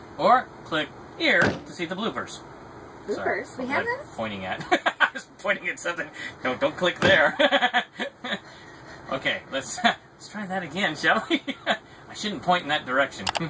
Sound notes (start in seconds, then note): 4.9 laughs; 7.2 balloon popping, laughs; 11.4 laughs